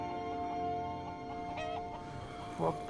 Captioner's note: rooster clucking